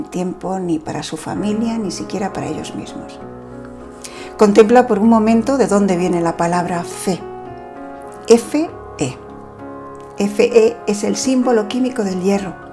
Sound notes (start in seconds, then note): 8.7 in spanish